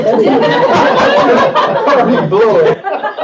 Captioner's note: all laugh